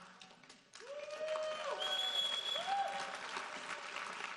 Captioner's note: audience cheering